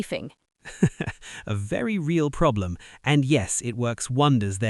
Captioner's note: laughs